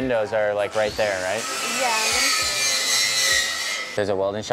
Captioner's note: screeching